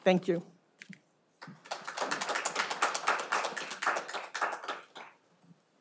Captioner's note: audience applauding